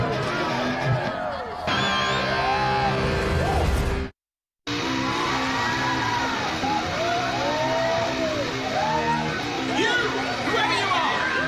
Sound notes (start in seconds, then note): 4.6 crowd cheering; 4.7 electric guitar playing